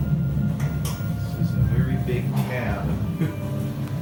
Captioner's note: chuckles